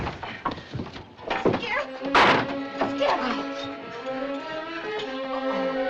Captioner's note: groans